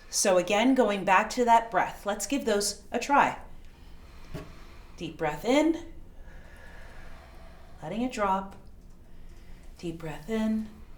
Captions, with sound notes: So again, going back to that breath. Let's give those a try. (inhaling) Deep breath in, (exhaling) letting it drop. Deep breath in,